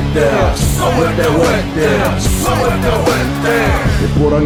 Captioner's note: non-english speech